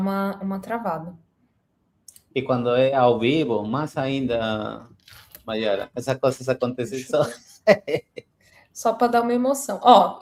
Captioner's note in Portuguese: risadas